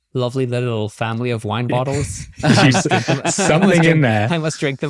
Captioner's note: laughing